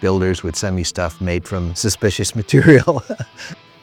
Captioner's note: laughing